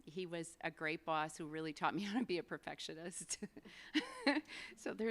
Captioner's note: laughs